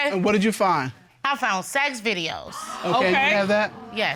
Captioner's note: audience exclaiming